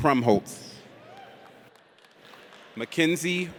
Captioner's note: audience cheers